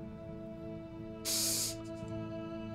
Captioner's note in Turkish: Nefes sesi